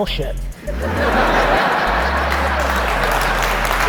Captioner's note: laughter and applause